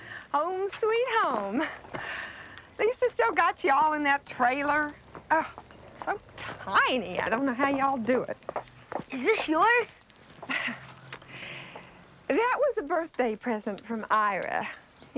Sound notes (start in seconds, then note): 0.0 sighs; 4.2 groans; 10.4 laughs